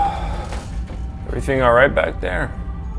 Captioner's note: Jack sighs